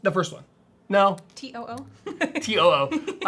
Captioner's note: laughs